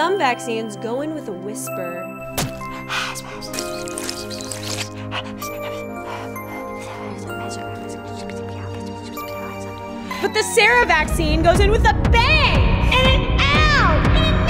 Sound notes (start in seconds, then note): 2.4 thuds; 3.1 whispering